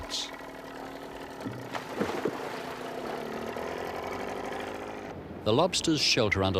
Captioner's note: splash